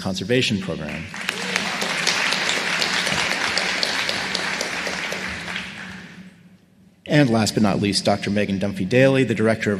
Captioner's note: applause